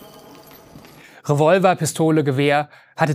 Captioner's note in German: Die Patronenhülsen klappern